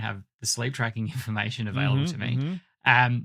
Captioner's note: chuckles